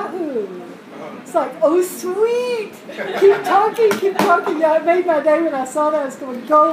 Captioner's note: laugh